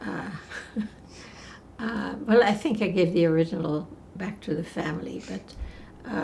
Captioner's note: laughing